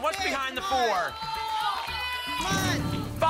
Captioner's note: cheering